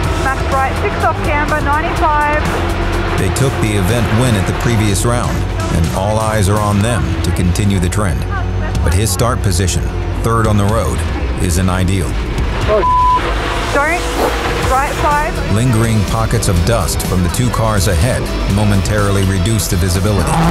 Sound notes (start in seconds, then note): 12.7 beep